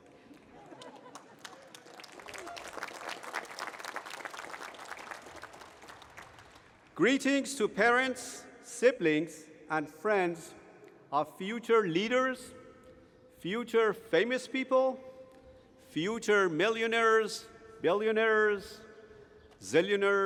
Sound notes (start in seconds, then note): 0.4 laughter; 1.7 applause